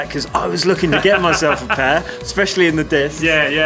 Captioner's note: laughs